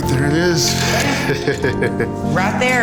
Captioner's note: laughing